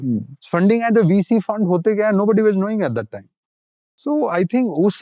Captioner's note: speaking in Hindi